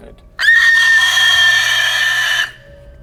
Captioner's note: unholy high pitched scream omg make it stop